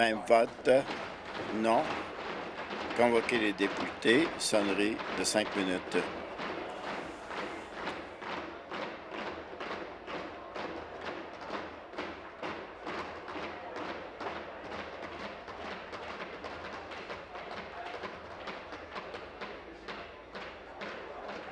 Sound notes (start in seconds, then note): 4.9 tapping of desks